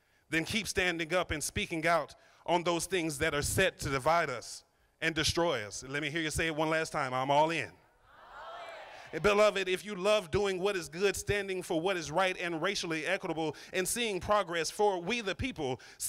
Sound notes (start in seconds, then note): 7.9 crowd